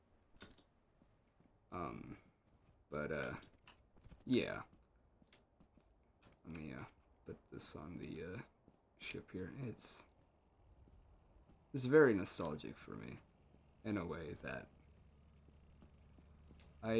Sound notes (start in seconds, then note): none